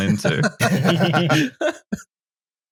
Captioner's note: laughter